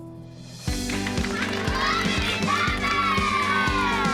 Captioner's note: cheering and applause